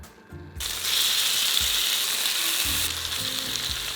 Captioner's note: sizzling